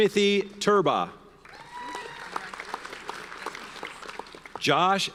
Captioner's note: audience cheers and applauds